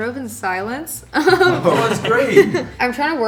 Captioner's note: laughing